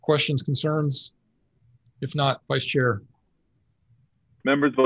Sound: none

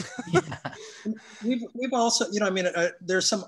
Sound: all laugh

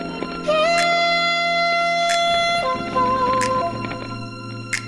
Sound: slow cutting sounds

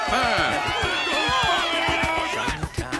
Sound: cheering

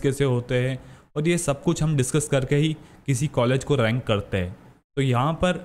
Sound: breathing heavily

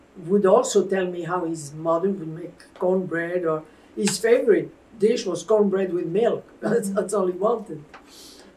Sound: laughs

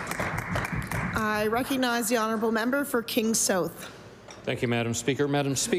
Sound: applause

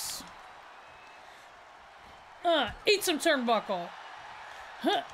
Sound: applause

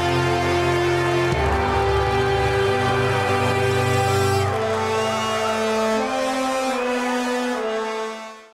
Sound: cheering

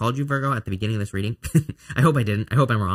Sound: laughs

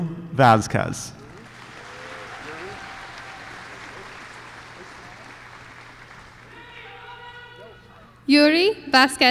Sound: applause

